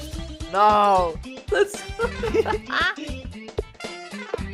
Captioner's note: laughs